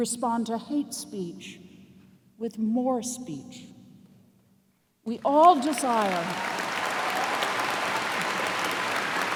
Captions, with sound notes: We respond to hate speech with more speech. (cheers and applause)